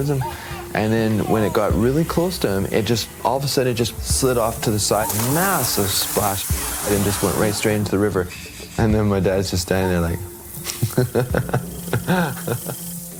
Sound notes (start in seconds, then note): 4.6 splash